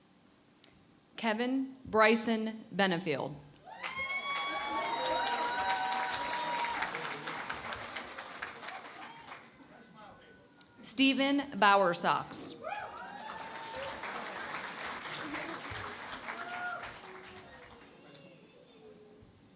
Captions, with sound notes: >> Kevin Bryson Benefield. [ Cheering and Applause ] Steven Bowersox. [ Cheering and Applause ]